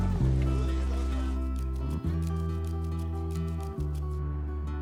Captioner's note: knife scraping